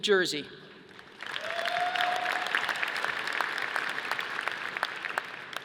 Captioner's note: audience applauding